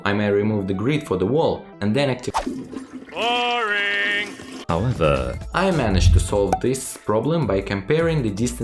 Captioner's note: toilet flush… BORING